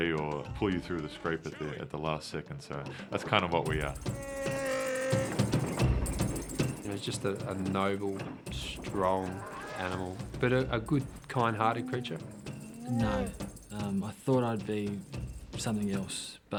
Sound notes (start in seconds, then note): 3.7 grunts